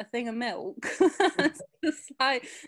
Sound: laughs

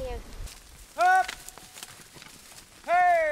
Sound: shouts

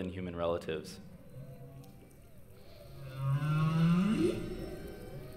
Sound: humpback whales singing

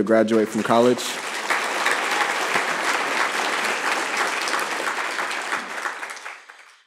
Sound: applause

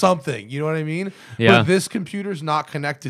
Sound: laughter

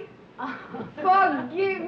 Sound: women chuckling

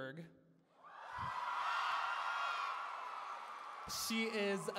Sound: cheering

